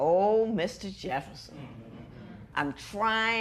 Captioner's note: spectators murmur